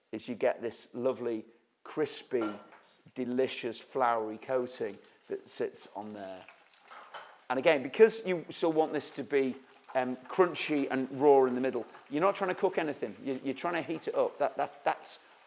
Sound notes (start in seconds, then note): none